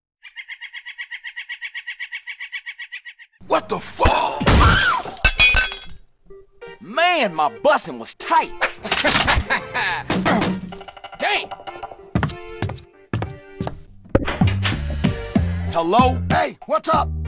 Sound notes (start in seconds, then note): 8.9 laughter; 11.4 door knocks